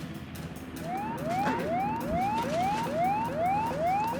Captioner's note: alarms blare